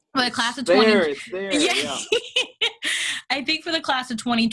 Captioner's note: laughs